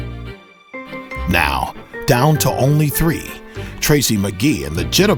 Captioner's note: voiceover